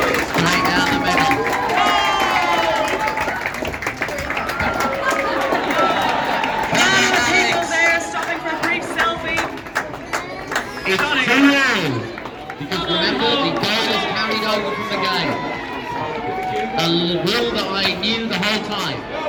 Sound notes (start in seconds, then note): 0.0 applause; 3.5 applause and laughter